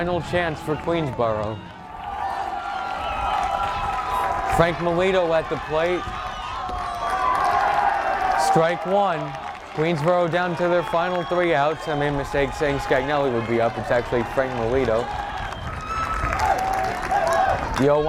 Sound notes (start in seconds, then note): 2.7 crowd cheering